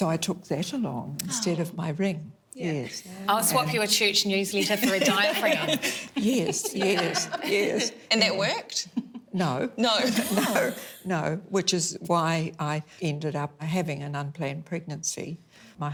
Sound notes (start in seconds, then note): 4.8 laughs